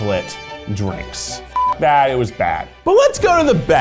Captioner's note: beep